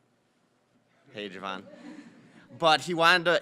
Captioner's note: audience laughing